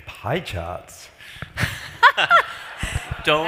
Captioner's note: laughs